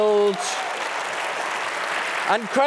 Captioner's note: applause